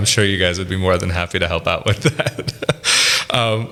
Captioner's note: laughs